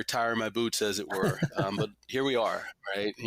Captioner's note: laughs gently